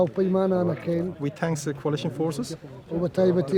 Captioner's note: speaking foreign language